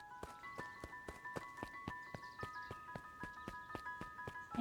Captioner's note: footsteps